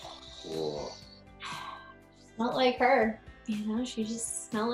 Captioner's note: sighs